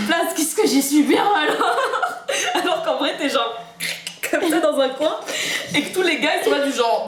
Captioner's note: laughter